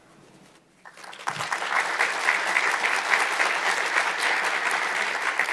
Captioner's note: audience applauds